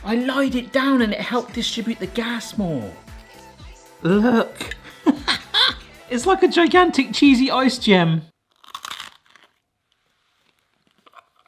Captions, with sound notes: I lied it down and it helped distribute the gas more. Look. (laughs) It's like a gigantic cheesy ice gem.